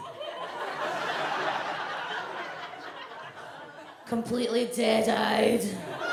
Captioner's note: audience laughs